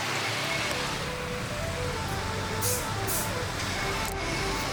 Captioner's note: loud city and construction noise